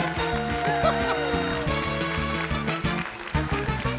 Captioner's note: laughs